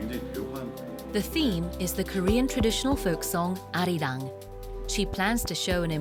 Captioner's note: voiceover